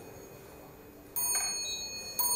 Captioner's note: elevator rings